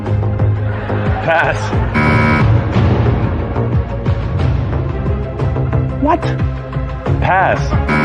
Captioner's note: chuckling; buzzer sounds